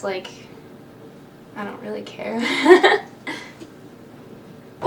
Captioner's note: laughs